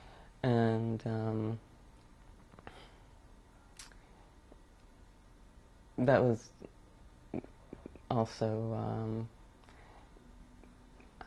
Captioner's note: pauses for 7 seconds